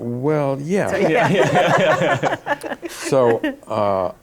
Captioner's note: laughter